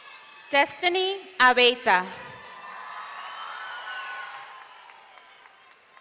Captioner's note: audience cheering